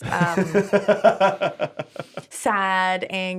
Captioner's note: laughs